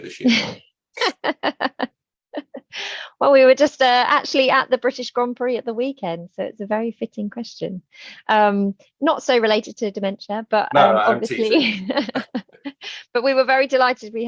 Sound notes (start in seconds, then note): 1.0 laughing; 10.8 chuckling